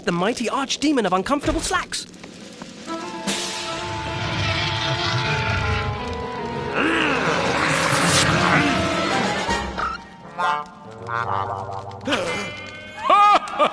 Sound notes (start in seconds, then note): 3.6 growling; 7.0 snarling; 12.5 gasping